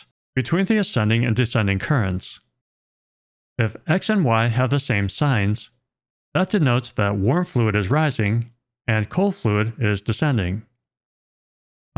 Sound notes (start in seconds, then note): none